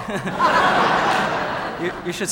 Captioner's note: audience laughing